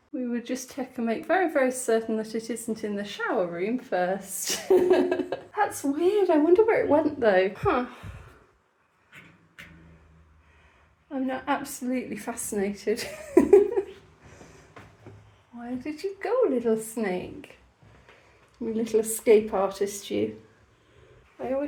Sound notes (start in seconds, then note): 4.6 laughing; 13.0 laughing